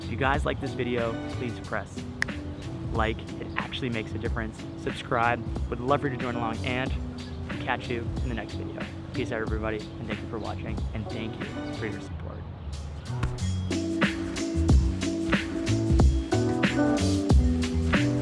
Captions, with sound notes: If you guys like this video, please press (snap) like! It actually makes a difference. Subscribe, I would love for you to join along and, catch you in the next video. Peace out everybody, and thank you for watching, and thank you for your support. (mellow instrumental music)